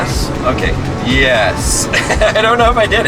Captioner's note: laughs